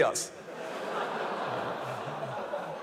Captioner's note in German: Lachen